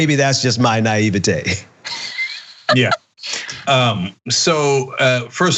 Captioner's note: laugh